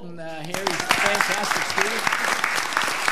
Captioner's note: all applauding